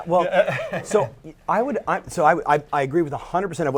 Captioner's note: laughing